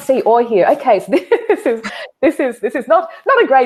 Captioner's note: laughing